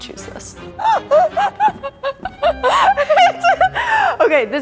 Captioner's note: laughs hysterically